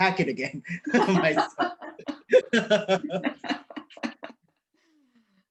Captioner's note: laughing